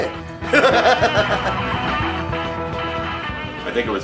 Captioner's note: laughing